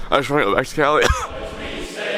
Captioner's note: coughs; choral music